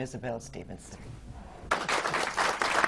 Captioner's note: applause